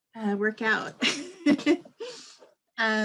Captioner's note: laughter